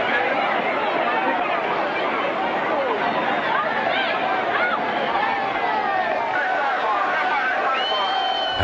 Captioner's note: crowd noise